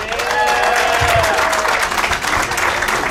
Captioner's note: audience cheering; audience clapping